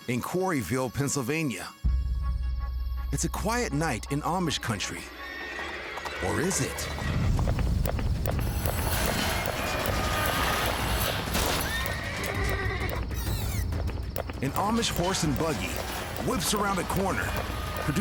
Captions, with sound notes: >>In Quarryville, Pennsylvania, it's a quiet night in Amish country. (horse neighing) Or is it? (buggy screeching) (horse neighing) An Amish horse and buggy whips around a corner,